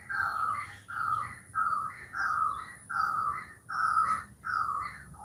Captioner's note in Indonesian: Suara burung